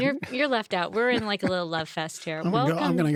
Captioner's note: laughing